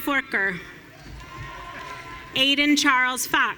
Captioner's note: audience cheering